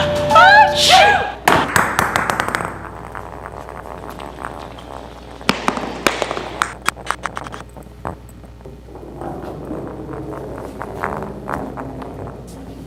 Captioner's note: ball rolling